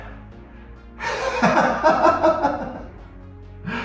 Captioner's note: laughing